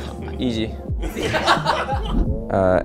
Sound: laughter

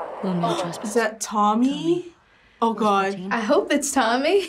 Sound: gasps

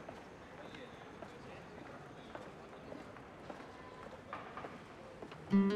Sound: street sounds

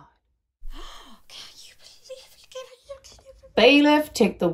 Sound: audience muttering

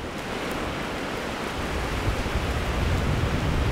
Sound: waves whooshing

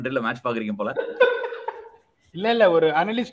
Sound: laughs

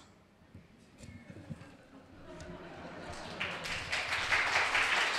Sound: audience cheering

